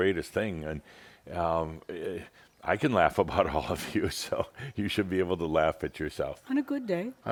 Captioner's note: chuckles